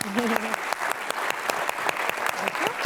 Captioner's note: applause